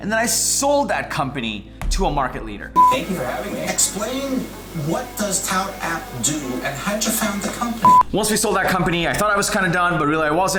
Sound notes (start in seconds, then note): 2.8 beep